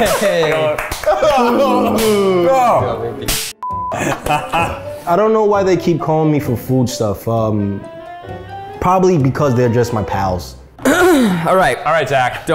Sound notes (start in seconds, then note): 0.1 high fives smacking loudly; 3.6 beep